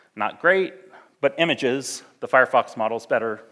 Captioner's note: none